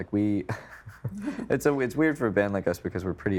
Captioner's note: chuckling